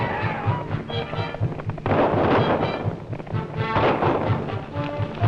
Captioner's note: gunfire